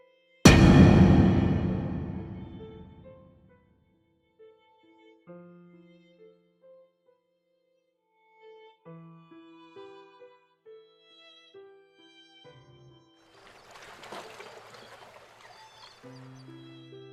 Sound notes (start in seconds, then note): 0.4 dramatic bang noise; 5.3 sad violin music; 13.3 sea waves and birds background sound